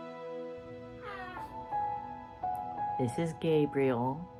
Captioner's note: baby cooing